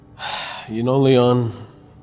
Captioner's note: Pastor Luis sighs